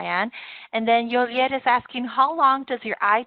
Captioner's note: spanish